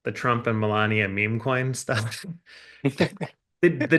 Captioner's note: chuckles